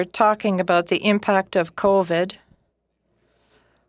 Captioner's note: speaking in French